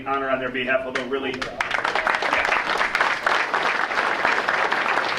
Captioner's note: audience applauding